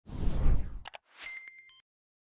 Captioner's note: logo whooshing; electronic tones chiming